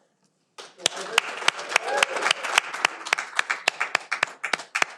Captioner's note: audience applauding